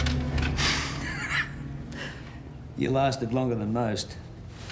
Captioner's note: laughs